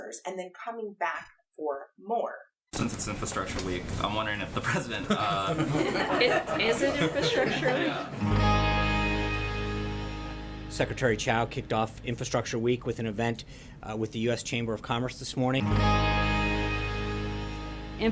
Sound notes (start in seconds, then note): 4.7 crowd laughing; 8.1 guitar strumming; 15.6 guitar strumming